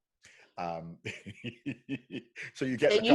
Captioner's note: laughing